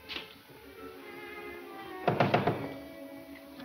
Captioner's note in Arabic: طرق على الباب